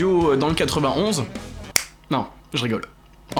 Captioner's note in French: claquement de doigts